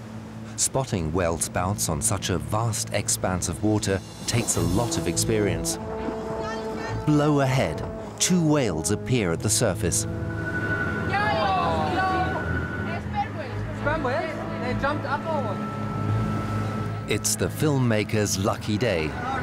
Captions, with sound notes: Spotting whale spouts on such a vast expanse of water takes a lot of experience. [woman shouts] Blow ahead! Two whales appear at the surface. [excited conversation in Greek] Sperm whales? They jumped up, or what? It's the filmmaker's lucky day.